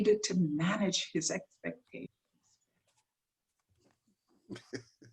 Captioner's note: laughs